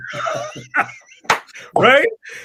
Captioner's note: both laugh